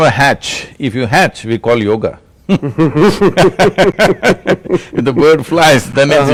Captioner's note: laughter